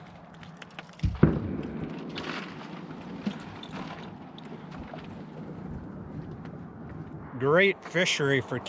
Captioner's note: fish flopping